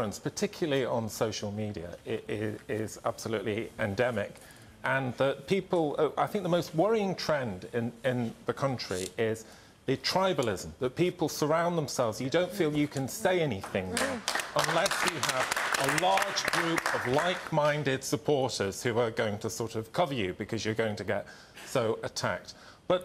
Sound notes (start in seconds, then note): 13.6 audience applauds